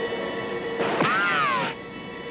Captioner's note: gun fires